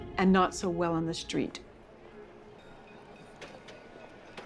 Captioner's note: trolley clattering